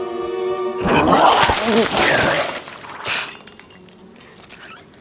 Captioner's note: vomit splashing